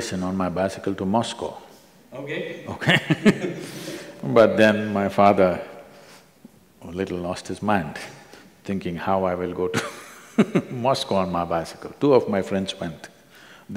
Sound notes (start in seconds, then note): 2.7 both laugh; 7.9 laughs; 10.1 laughs